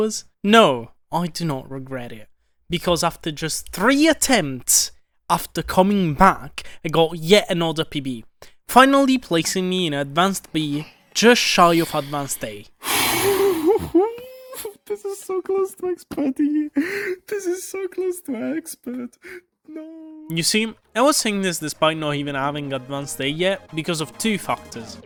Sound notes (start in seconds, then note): 14.0 exhaling